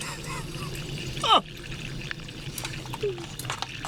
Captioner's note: chuckling